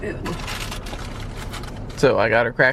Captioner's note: plastic crinkling